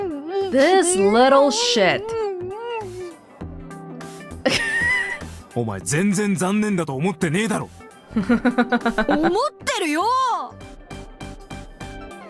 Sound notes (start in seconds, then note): 4.4 snickers; 8.0 chuckles